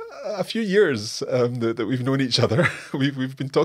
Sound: laughs

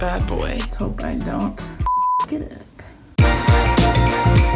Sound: beep; upbeat music

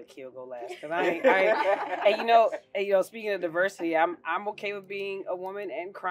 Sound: laugh

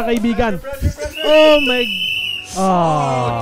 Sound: laughing

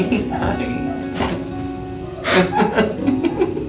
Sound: laughing; laughs

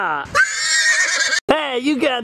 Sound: horse whinnies

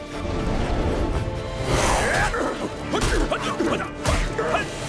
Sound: grunting

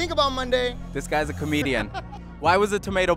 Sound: laughing

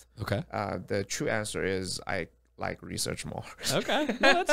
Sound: laughs

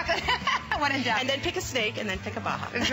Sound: laughter

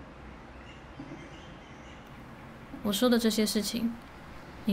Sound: birds chirping

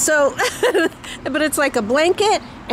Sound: laughing

